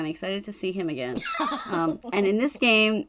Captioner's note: laughs